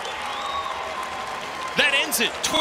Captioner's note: crowd cheers